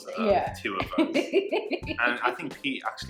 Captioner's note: laughing